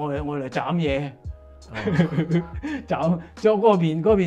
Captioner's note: laughs